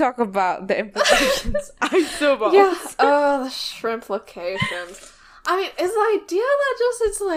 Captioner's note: laughs